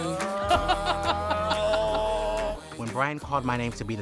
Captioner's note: laughs; groans